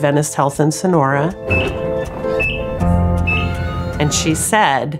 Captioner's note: gentle music; machines beeping